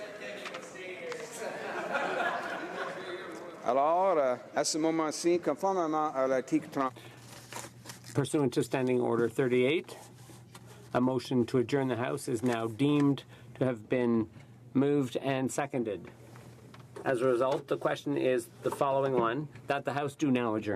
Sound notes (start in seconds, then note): 7.2 speaking French